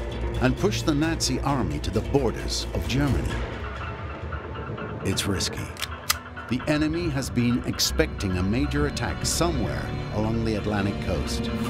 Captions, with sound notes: and push the Nazi army to the borders of Germany. It’s risky. [gun loading] The enemy has been expecting a major attack somewhere along the Atlantic coast.